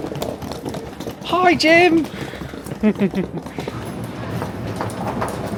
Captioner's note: chuckles